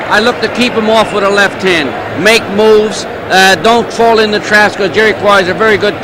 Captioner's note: music drowns out speaker; speaks faintly